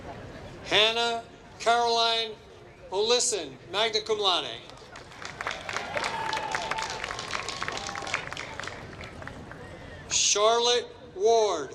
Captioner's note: applause